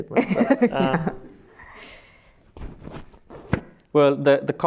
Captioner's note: laughs